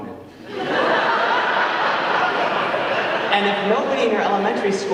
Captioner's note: audience laughing